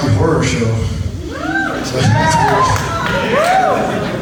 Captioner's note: audience whoops